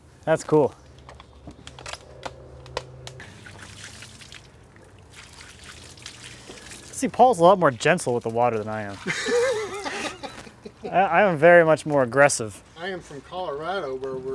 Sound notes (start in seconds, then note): 9.0 laughing